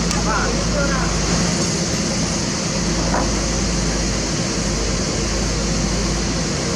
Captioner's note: engine